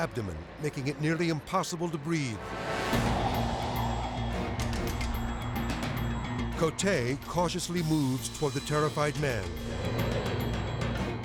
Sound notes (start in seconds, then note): 2.1 tense music; 2.5 wind whooshing; 9.4 tense music